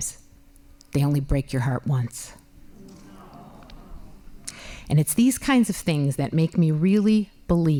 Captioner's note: laughing